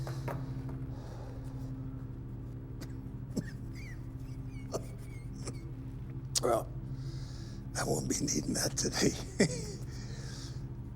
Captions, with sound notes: [muffled coughing] Well, I won't be needing that today. [laughs]